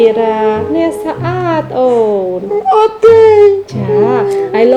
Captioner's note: crying